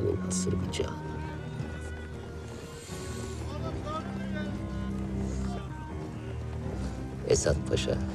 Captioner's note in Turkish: Müzik - Gerilim; Sokak sesleri